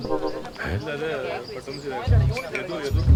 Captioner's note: indistinct chatter